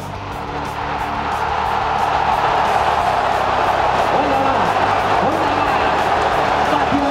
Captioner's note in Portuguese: gritos de gol; torcida celebrando